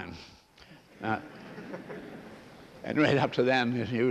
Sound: laughter

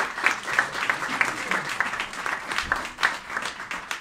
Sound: applauding

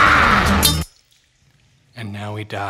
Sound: clang

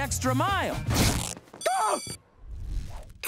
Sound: screaming

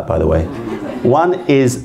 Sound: laughter

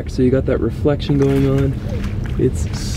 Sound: water splashing

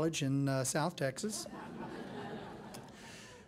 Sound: laughing

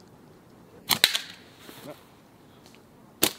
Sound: target thudding

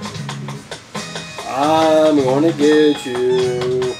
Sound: sing-song voice

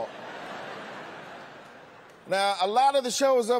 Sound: laughter

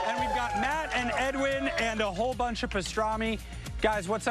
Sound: applause

